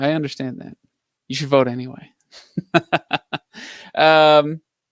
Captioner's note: laughs